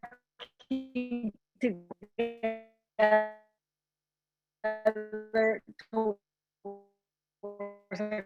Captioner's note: audio distorts